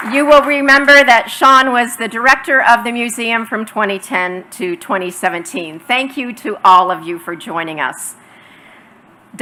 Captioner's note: applause